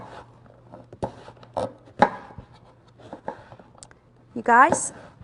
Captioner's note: chopping